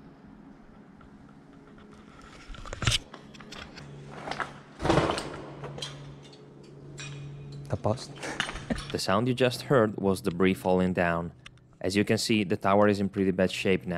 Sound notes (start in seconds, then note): 4.8 loud rattling, stuff falling down